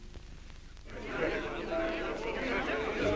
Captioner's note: guests chattering